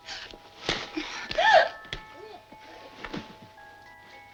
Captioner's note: Dolly gasps